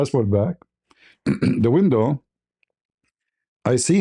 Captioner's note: berdehem